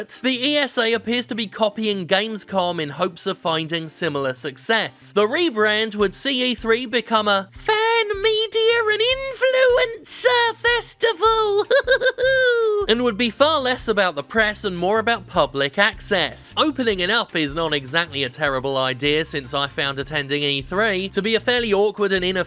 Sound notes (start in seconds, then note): 11.1 laughs